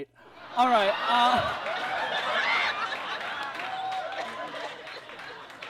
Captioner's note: audience laughs